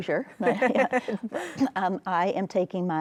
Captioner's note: laughs